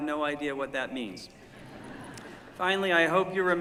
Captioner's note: laughter